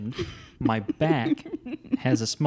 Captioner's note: laughs